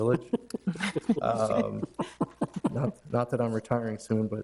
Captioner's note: board members laugh